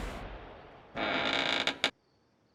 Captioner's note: creaking